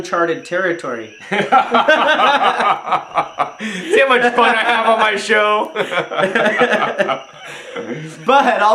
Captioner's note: chuckles; laughs loudly